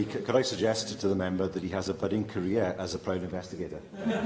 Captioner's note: laughter